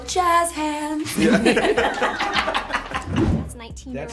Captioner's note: laughing